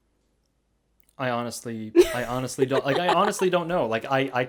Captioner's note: laughs